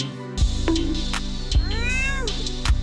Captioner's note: bonk